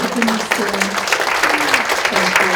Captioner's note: audience applauds